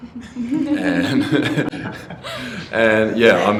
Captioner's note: laughter